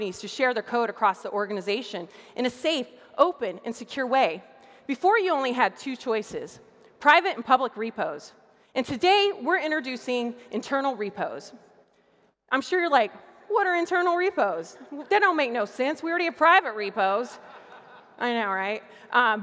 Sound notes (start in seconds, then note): 17.3 laughter